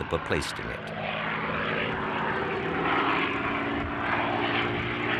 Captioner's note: plane roaring